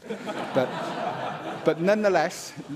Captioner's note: laughter